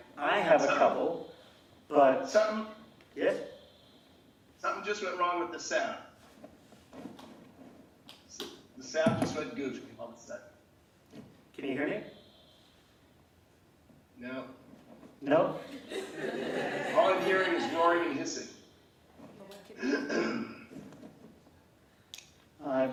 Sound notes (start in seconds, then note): 15.6 laughing; 19.8 clears throat